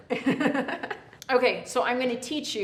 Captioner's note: laughs